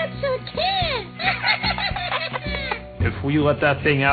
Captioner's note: both Laughing